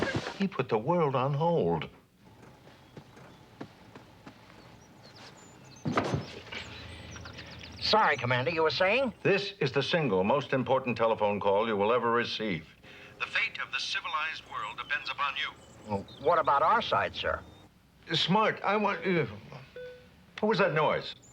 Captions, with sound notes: - He put the world on hold. (thuds) - Sorry, Commander, you were saying? - This is the single most important telephone call you will ever receive. The fate of the civilized world depends upon you. - What about our side, sir? - Smart, I want, what was that noise?